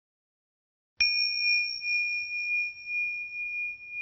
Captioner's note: dinging